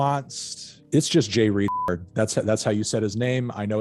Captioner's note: beep